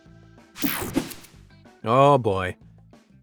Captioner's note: whooshing sound